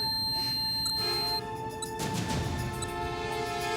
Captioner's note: beeping